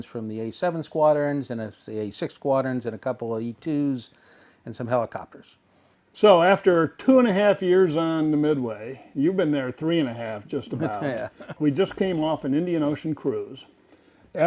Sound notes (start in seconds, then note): 10.6 laughs